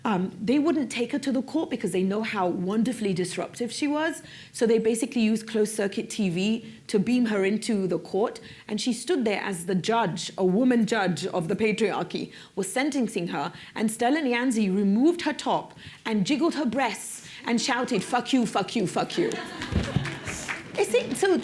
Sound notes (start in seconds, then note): 19.0 laughter; 19.8 applause